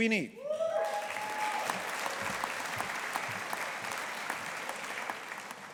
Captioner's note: audience applauding